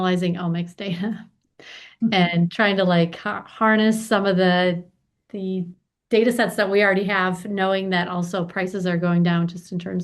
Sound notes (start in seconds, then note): 1.2 laughs